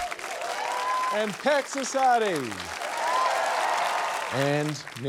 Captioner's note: cheering, applause